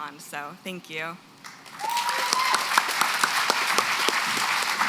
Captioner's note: applause